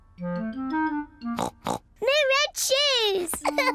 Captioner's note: oinks; laughs